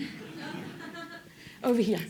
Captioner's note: laughter